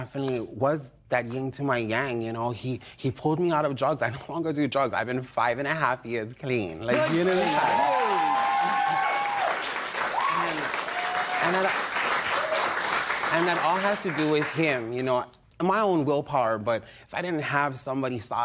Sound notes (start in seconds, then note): 8.6 cheers and applause